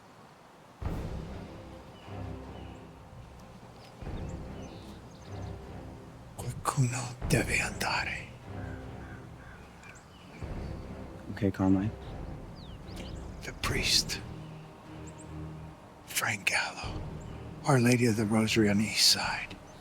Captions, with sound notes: (tense music) (Carmine speaking in Italian) - Okay Carmine. - The priest, Frank Gallo, Our Lady of the Rosary on the east side.